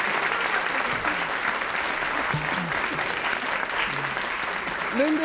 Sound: applause

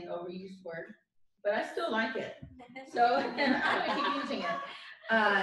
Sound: laughter

